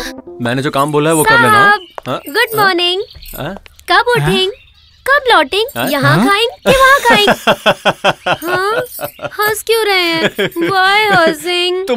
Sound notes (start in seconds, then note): 7.4 laughs